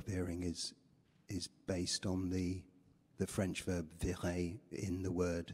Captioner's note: french